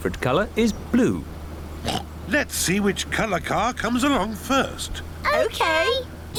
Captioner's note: oinks